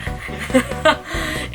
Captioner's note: laughs